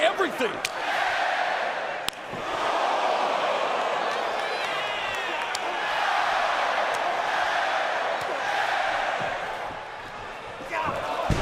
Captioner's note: crowd cheering